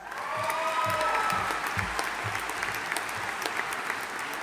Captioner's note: audience applauding